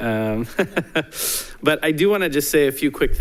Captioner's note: chuckles